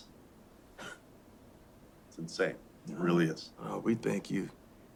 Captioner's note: laughs